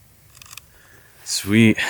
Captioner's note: camera clicks